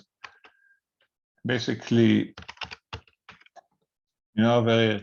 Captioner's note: keyboard clicking